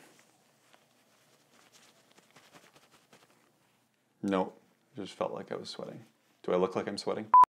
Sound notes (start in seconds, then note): 7.3 screen beeps